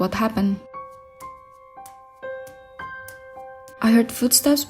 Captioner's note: walking sound